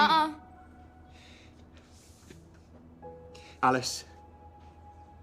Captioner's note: sighs